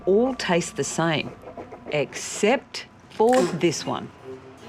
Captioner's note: spits